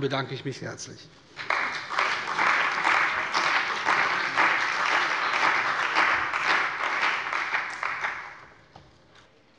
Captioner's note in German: Beifall bei der CDU und dem BÜNDNIS 90/DIE GRÜNEN